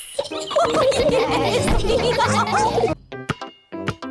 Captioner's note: all giggle